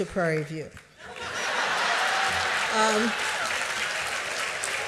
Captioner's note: applause